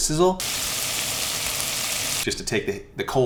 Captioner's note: sizzling